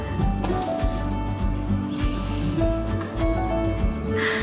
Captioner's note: exhales; inhales; exhales